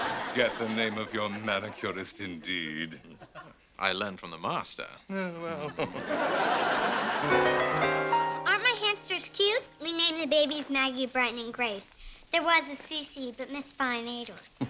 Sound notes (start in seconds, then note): 5.3 chuckles